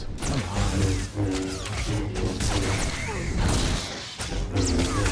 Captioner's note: gunshots